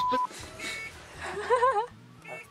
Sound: beeping

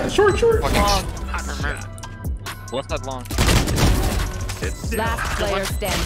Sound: guns firing

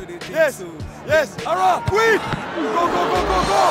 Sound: crowd cheering; ball thuds

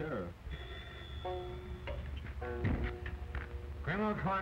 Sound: phone ringing

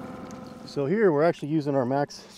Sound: boat engine idling

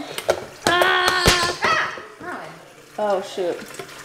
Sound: kettle clangs

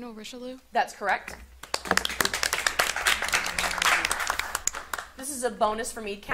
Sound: audience applauding

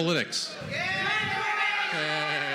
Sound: cheering

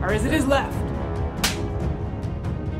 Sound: slap

